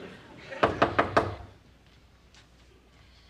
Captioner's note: knocking on door